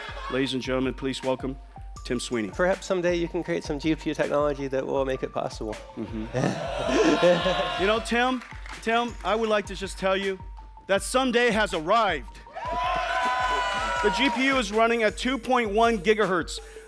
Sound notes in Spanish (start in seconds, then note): 6.5 oooh; 12.7 Aplausos